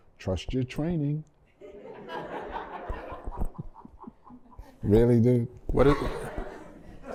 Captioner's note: laughter